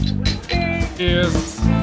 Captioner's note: glasses clink